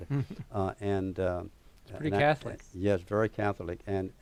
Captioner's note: laughter